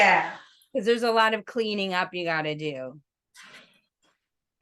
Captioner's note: laughs